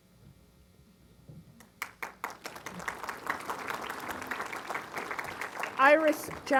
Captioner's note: applause